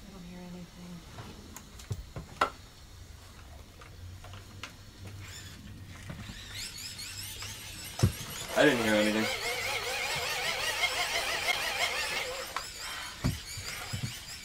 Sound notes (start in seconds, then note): 2.6 item clanking; 6.7 lamp whirring; 11.2 lamp whirring